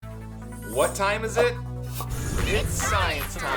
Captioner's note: male Voice